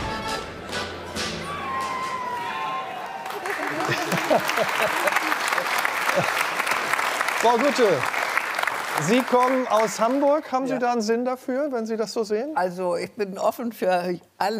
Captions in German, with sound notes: (Jauchzen) (Lachen) Frau Gutte, Sie kommen aus Hamburg. Haben Sie da einen Sinn dafür, wenn Sie das so sehen? Also, ich bin offen für alles.